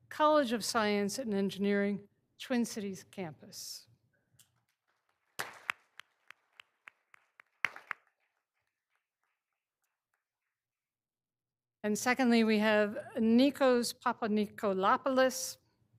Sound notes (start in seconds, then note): 4.8 all applauding